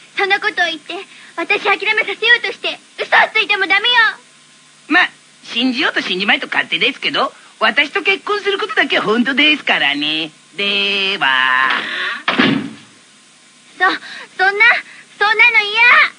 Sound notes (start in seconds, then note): 12.3 closes The Door